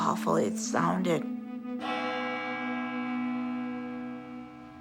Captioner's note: chimes